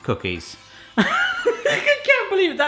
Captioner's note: laughing